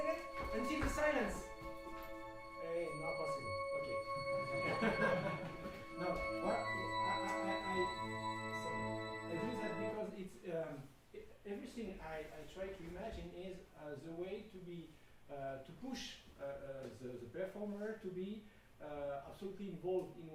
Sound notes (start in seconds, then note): 4.6 laughing